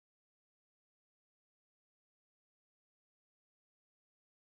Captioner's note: none